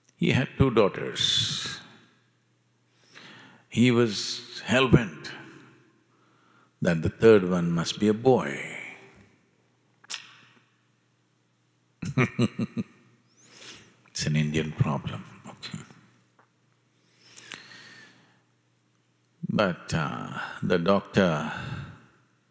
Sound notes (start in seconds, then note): 12.0 laughs